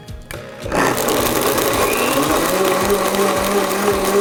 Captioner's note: blender whirring